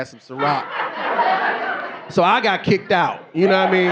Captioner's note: audience laughing